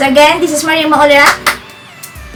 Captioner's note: clapping